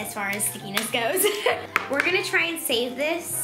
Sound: laughing

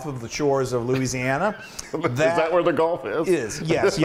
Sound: laugh

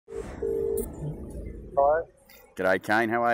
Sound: phone ringing

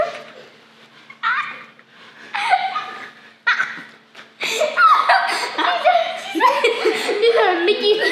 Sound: laughter continues

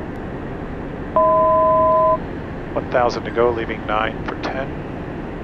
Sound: altitude Chime

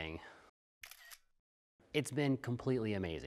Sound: shutter clicks

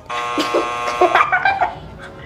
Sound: buzzer buzzing; laughing

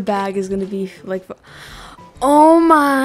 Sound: gasps

